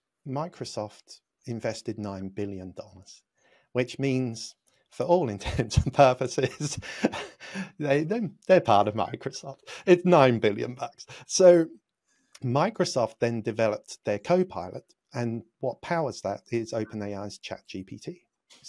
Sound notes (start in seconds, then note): 6.1 laughs